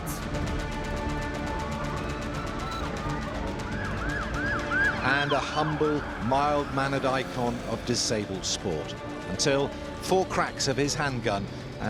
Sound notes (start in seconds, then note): 0.1 dramatic music; 4.3 sirens wailing